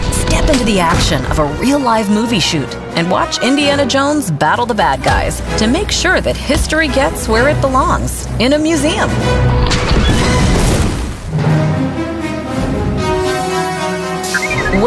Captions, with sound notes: Step into the action of a real live movie shoot and watch Indiana Jones battle the bad guys to make sure that history gets where it belongs in a museum. (blasting) (dramatic music)